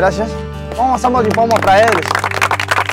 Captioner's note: claps